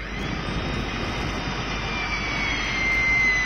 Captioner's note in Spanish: Sonido de obras, taladro, el vecino fastidioso